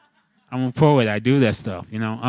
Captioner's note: laughing